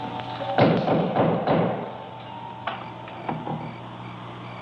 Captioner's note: knocking